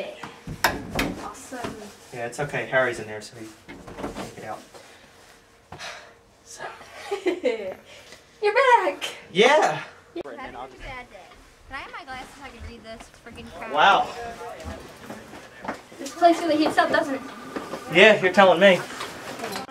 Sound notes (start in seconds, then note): 6.9 Valery laughs; 10.2 station chatter